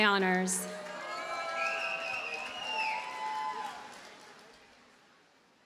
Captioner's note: audience cheers and applauds